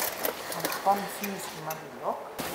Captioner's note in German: Sie spricht leise